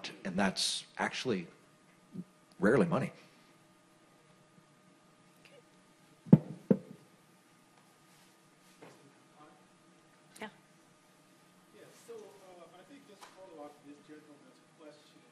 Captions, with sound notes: And that's actually rarely money. (man speaking off-mic)